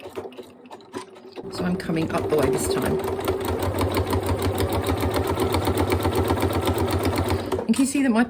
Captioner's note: sewing machine noise